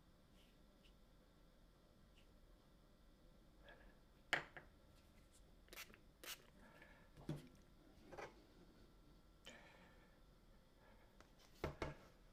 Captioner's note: silence